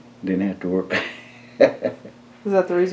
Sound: laughs

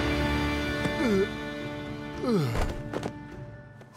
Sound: groaning

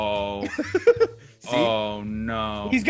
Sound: laugh

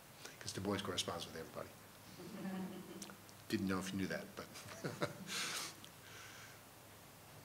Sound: laughing

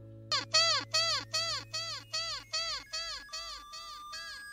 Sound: toy squeaking; electrical beeping

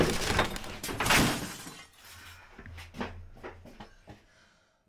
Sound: glass breaking

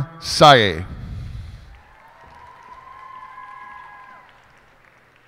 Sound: cheers and applause

